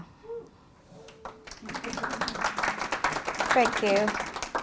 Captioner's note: applause